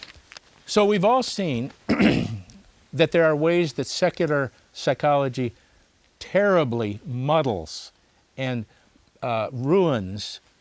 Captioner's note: clears throat